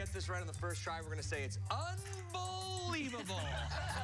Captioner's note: laughter